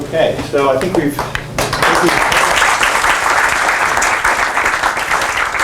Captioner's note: applause